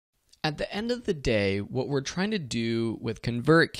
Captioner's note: voiceover